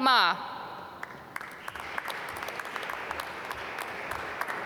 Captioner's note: applause